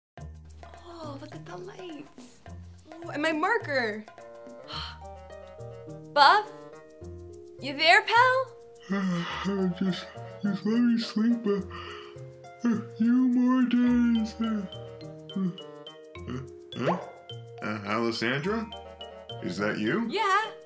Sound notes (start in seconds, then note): 8.9 distorted offscreen male voice yawns; 17.6 normal voice